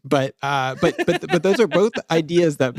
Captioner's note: laughs